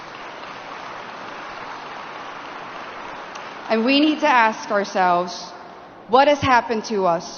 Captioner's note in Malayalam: കരഘോഷം